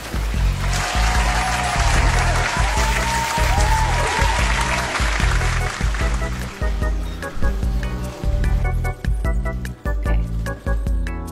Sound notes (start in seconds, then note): 0.0 applause